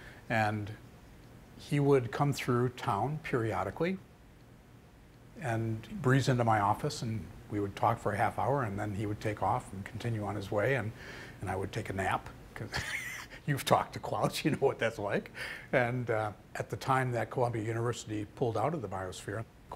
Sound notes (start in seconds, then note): 12.7 laughing